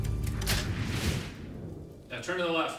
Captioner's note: camera flash pops